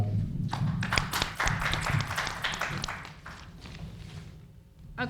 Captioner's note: applauding